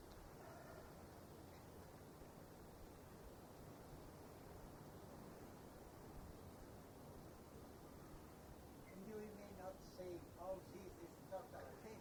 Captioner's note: laughs